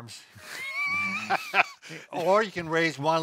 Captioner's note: laughs